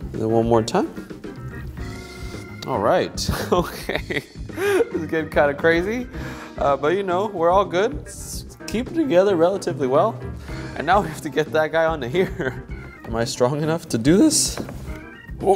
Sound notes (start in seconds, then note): 3.3 laughs; 12.2 laughs